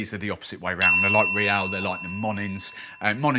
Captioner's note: bell dings